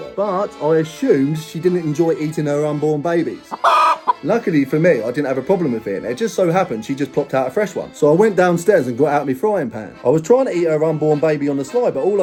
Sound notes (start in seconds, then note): 3.5 chicken clucking